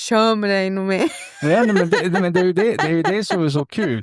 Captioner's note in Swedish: skratt